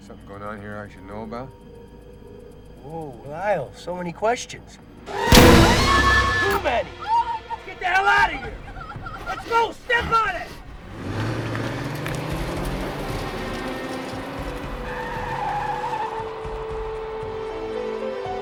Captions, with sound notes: Is there something going on here I should know about? - Whoa, Lyle, so many questions. (gun blasts) (Rebecca screams) Too many! Get the hell outta here! (Rebecca sobbing) Go, step on it! (tires screeching)